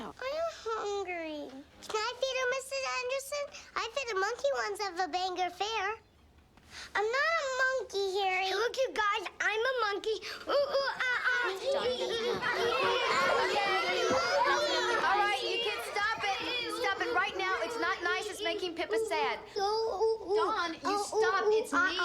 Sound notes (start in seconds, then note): 11.6 kids laughing